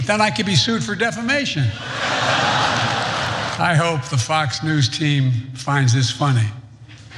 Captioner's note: laugh